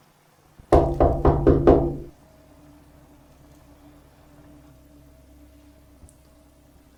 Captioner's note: there is a knock on the door and an ominous noise rises